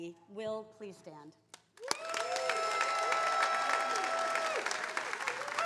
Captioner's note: attendees cheering